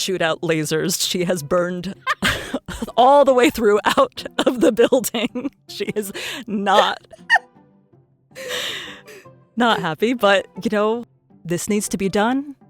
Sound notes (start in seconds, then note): 0.0 chuckles; 2.0 laughs